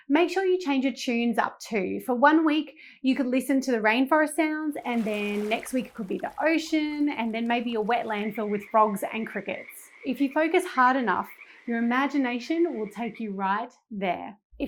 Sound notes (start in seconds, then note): 5.2 water rippling; 9.8 frogs croaking